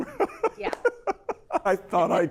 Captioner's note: laughs